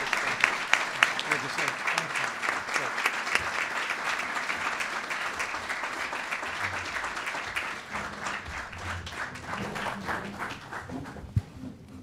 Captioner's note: applause